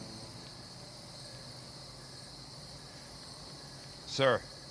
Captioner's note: insects chirping